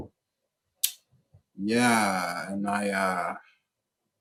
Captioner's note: clicks tongue